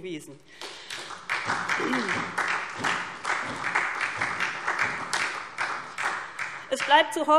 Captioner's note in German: Beifall SPD